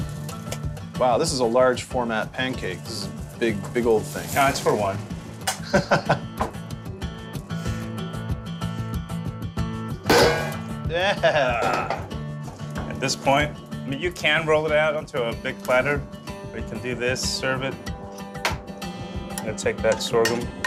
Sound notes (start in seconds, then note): 5.6 laughs